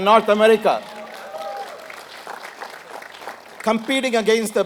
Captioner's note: applause